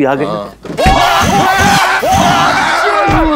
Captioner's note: Both exclaims